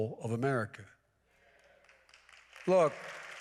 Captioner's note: applause